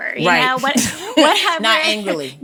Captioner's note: both laughing